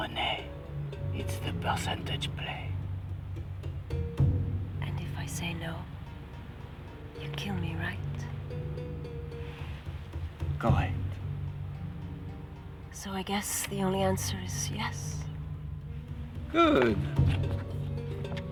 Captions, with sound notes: Call me wacky, but I'm gonna bet you Monsieur Le Blanc has pissed off cops before. Let's go. Get up. (tires screech) Drop it. Get in.